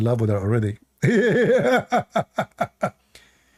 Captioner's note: Ketawa